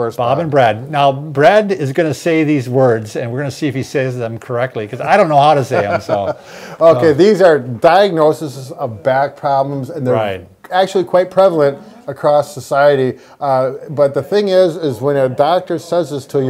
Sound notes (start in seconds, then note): 5.6 laughing